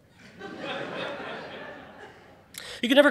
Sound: audience laughing

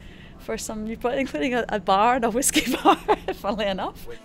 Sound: laughs

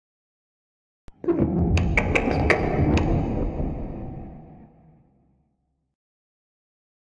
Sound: sound of alien creatures

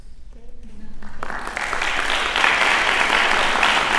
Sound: applause

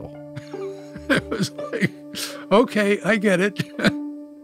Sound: laughs

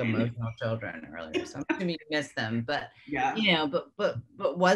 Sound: laughing

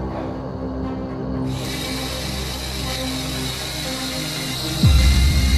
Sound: drilling noise

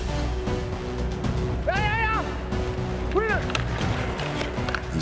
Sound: shouting

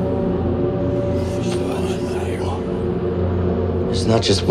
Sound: alien whispers

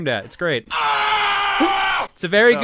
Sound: screams

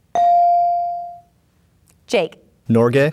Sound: bell dinging

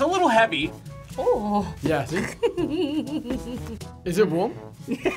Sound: giggles; laughs

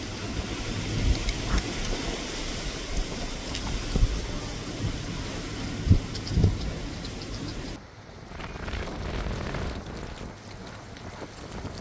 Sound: wind blowing

